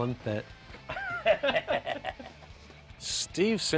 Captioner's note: laughter